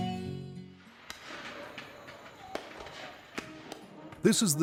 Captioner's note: gun shots